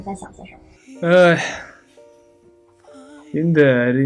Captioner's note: sigh